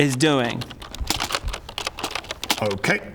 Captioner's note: very accurate typing noises